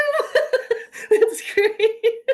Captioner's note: laughs